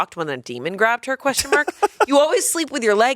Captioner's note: laughs